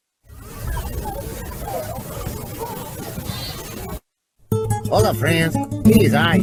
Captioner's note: people chattering indistinctly